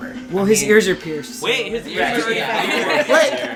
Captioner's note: laughter